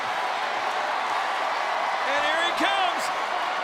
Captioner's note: crowd cheers